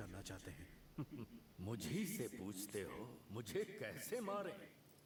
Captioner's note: chuckles